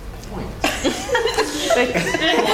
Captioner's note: laugh